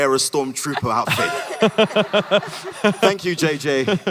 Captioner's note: Hardwick et al laugh